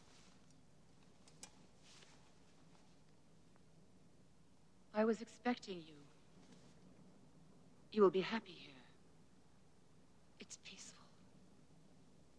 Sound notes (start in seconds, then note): none